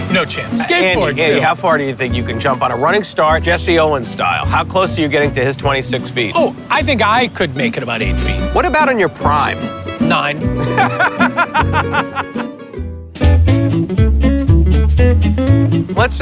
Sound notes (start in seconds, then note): 10.5 laughs; 13.1 cheerful music